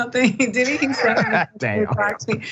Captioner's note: laugh